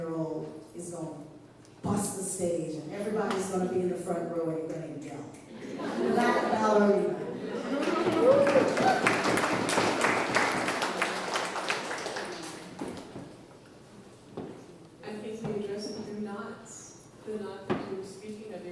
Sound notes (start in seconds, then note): 11.4 applause